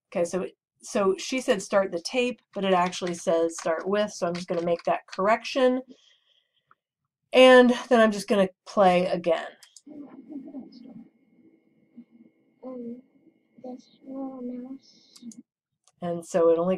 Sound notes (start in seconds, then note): 13.6 faint voice of child